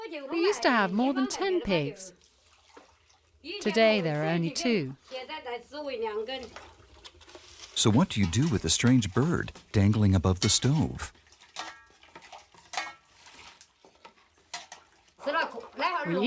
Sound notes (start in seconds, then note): 11.6 utensils clattering; 15.3 speaking in foreign language